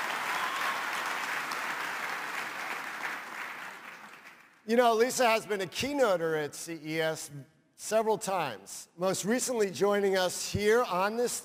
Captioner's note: applause